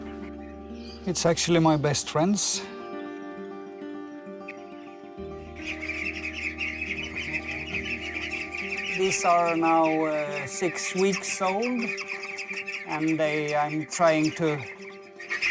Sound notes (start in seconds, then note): 5.5 quacking